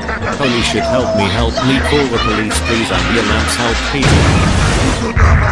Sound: Angry German Kid sounds

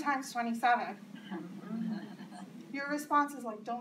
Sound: subtle laughter

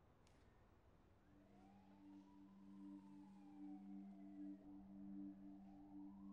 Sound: sirens ringing; atmospheric electronic music

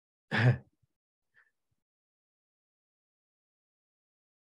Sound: chuckles

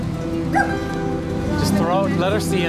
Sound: bark

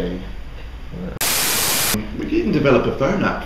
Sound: Static

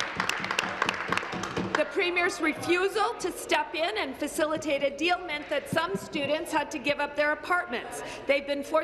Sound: applause

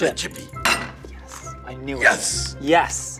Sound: bangs counter

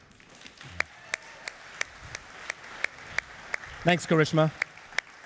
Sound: clapping

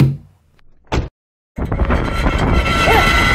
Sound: really loud wind

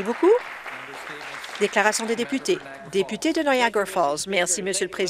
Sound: some applause

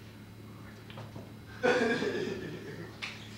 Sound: laughter

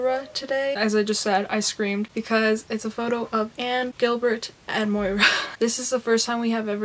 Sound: laughs

